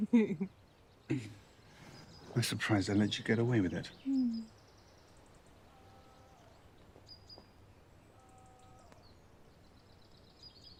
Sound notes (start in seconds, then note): 0.2 Salina laughs; 6.4 birds chirping